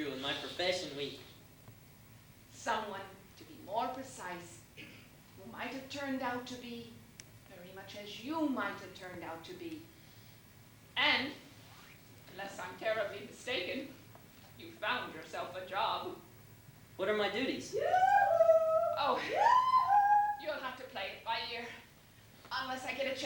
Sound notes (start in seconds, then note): 18.5 shouting from another room